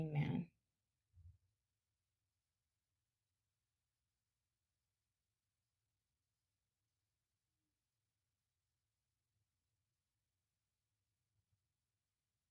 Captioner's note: silence